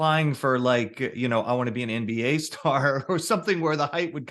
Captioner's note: chuckles